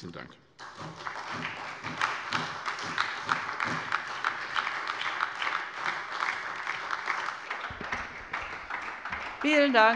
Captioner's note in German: Beifall bei der SPD